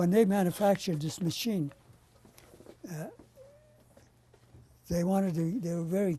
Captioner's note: pauses for 3 seconds